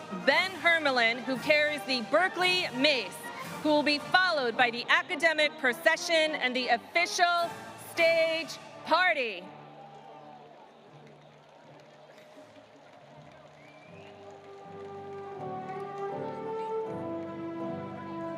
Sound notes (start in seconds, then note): 9.4 audience applauding; 14.1 ceremonious music